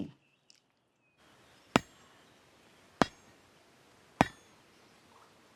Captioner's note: metal rod thudding